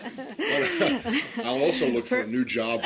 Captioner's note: laughter